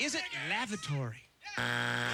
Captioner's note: buzzer